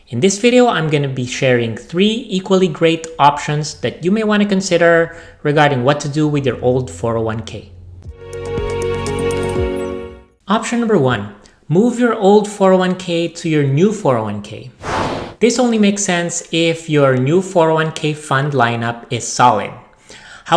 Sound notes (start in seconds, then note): 8.0 upbeat music; 14.8 air whooshing